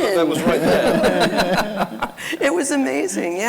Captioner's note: laughing